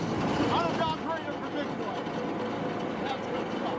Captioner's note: yelling